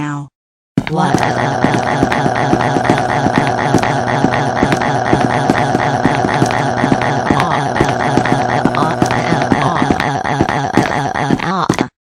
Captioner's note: crying